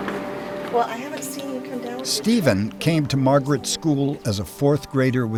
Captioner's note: voiceover